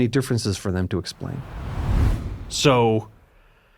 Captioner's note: screen whooshing